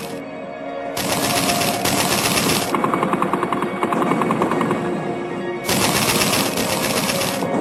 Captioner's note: guns blasting; heavy artillery booming